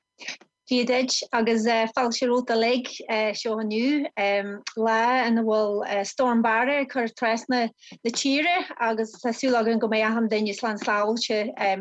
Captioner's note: foreign language 00:01:17